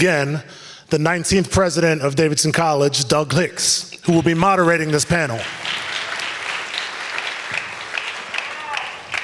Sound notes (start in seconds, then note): 4.3 audience applauds